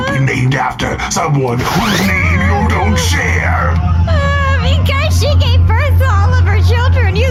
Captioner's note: wailing